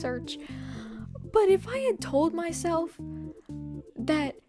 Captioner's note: inhale